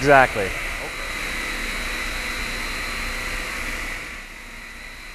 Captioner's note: machine hovering